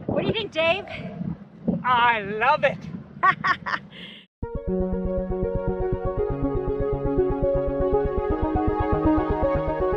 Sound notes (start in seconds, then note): 3.2 laughing; 4.4 soft music